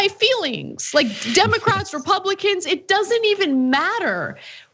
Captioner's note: laugh